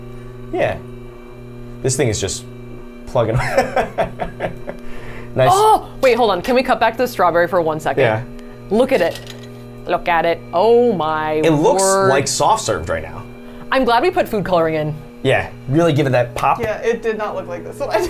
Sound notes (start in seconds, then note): 3.4 laughs; 4.8 gasps